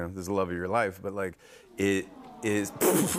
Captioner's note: audience "Awws"; laughs